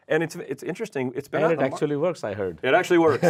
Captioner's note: chuckles